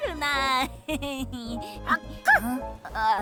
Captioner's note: giggling